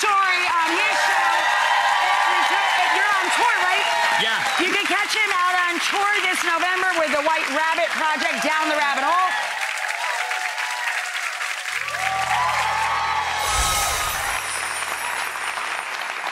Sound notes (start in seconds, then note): 9.2 audience clapping and cheering; 13.4 lively chimes